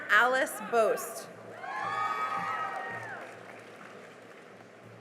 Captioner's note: cheering and applause